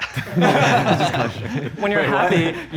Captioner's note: contestants laughing